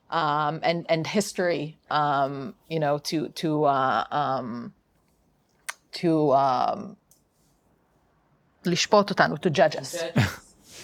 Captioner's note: speaking hebrew